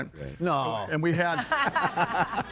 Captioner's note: group laughing